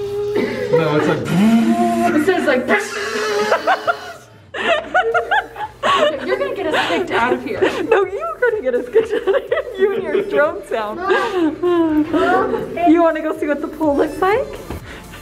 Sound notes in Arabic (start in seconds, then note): 0.1 يقلد ضوضاء المحرك الناعمة; 1.8 يقلد ضوضاء المحرك الصاخبة; 3.5 يقلد الأزيز العالي; 4.3 يضحك; 10.8 يضحك